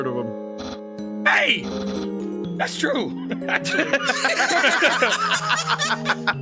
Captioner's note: all laughing